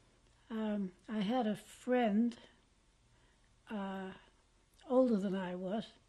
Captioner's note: pauses for 3 seconds